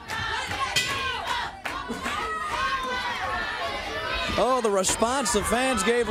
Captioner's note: bell ringing; crowd cheering